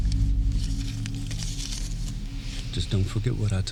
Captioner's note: tense music; paper rustling